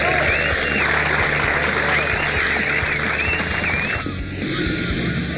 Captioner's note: crowd applauds and cheers